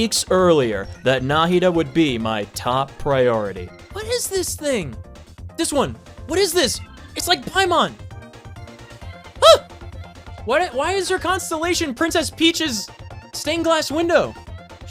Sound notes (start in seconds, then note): 9.9 gasp